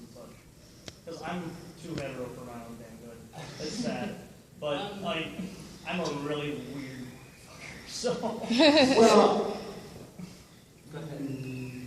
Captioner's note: laughter